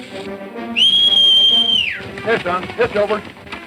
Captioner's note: whistles